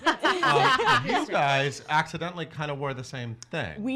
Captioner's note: laughs